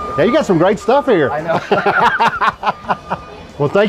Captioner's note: both laugh